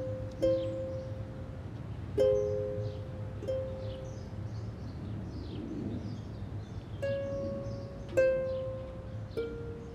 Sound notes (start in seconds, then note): 0.0 ukulele strums; 4.4 birds singing; 8.0 ukulele strums